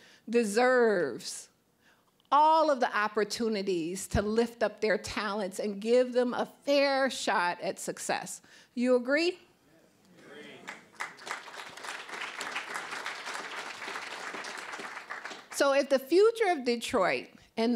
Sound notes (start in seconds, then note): 10.2 audience member shouting; 10.4 applause